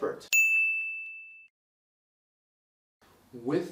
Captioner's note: bell rings